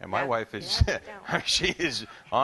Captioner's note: laughs